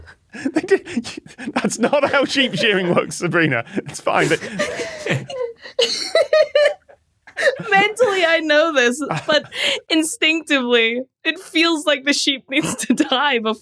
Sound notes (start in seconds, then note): 0.3 bewildered laugh; 5.0 group giggling